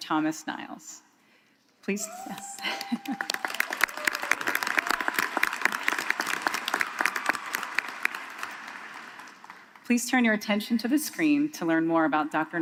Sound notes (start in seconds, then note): 6.3 applause